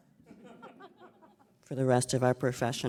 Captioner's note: audience laughing